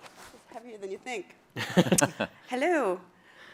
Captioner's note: chuckles